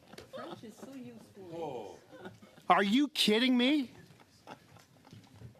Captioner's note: laughter